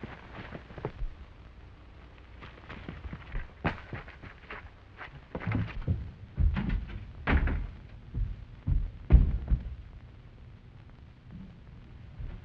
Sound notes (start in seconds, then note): 7.2 door shuts